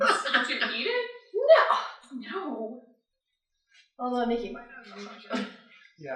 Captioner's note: laughter; scoffs